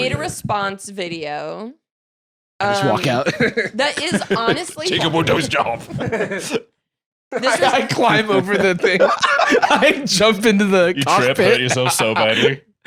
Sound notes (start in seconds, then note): 7.4 both laughing